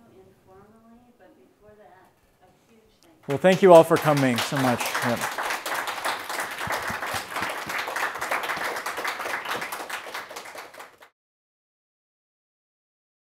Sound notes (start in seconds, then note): 4.7 audience clapping